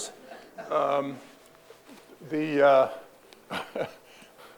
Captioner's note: audience laughing